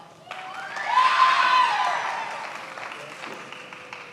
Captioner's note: many applauding